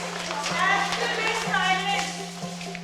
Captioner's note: kids chatting